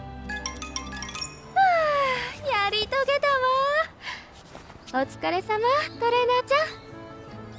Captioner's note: phew